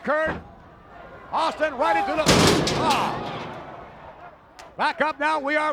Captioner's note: steel stairs thudding